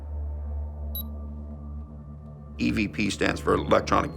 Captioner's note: camera beeps